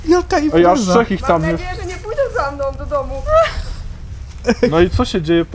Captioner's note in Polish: śmiech